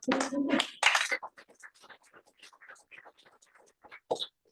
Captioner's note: applause